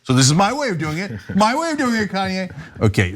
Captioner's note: laugh